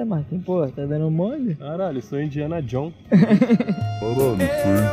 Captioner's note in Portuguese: risos